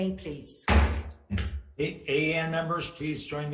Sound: gavel banging

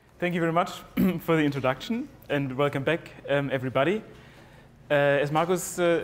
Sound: cough

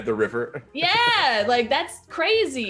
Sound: laugh

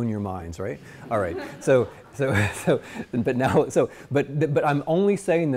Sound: students laughing

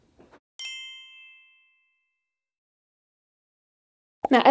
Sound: bell chimes

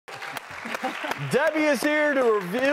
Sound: audience applauding

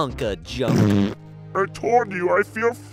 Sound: fart noise

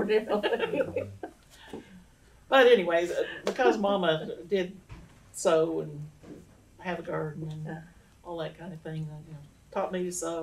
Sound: laughs

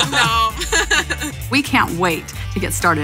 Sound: laughing

